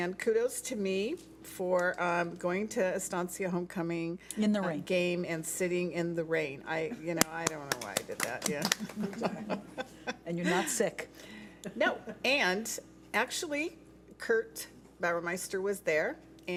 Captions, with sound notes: And kudos to me for going to Estancia homecoming game, and sitting in the rain. I don't know why I did that. (clapping) - And you're not sick. - No. And actually, Kirk Bauermeister was there